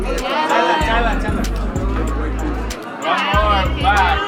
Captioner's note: chill music; photographers yelling